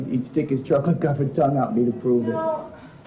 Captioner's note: exasperated